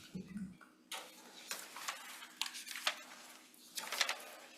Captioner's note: papers rustling